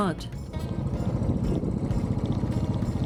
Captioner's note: bike engine